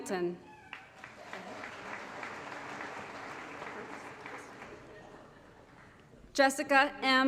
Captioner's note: applause